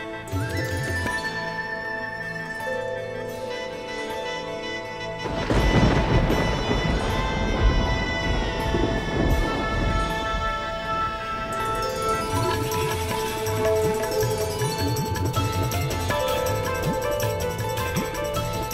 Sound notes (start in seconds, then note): 0.1 joyful music playing; 5.1 storm rumbling